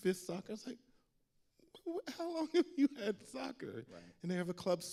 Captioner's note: laughing